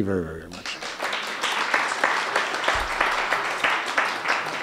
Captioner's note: applauding